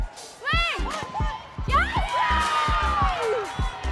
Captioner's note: cheering